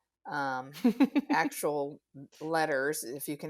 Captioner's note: laughs